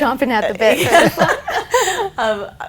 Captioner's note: laughing